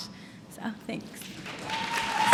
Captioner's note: applause